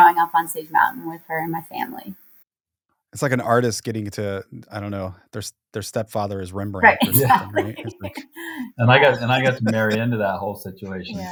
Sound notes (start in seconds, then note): 8.3 laughs